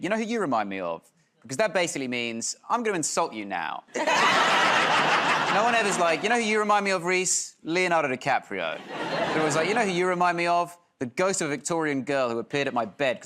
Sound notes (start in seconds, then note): 3.9 laughter